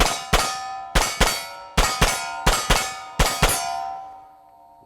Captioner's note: shots firing at steel target